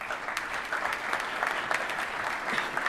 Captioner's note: applause